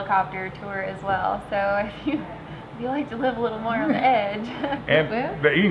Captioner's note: giggles